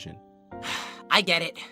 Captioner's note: test tube sighs